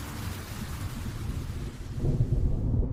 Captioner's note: thunder awakes the hibernating creatures